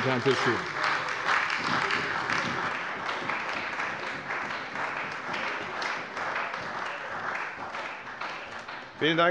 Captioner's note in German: Beifall bei der CDU